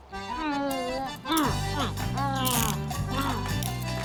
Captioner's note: mumbling excitedly